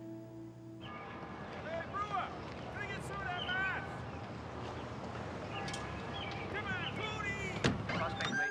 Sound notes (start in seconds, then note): 0.9 bell tolling